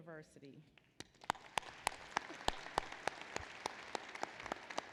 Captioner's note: applause